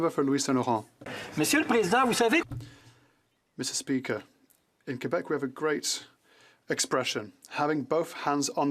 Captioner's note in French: voix de l'interprète